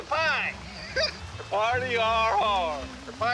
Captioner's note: laughs